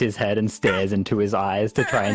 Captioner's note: Scrappy squawks